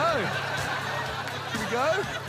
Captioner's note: laughter